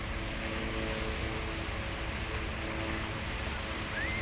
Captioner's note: water rushing